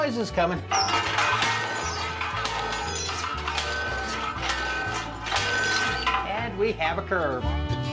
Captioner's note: pounding